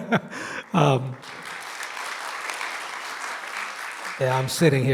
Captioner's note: people clapping